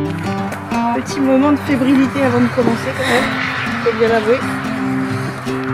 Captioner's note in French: rire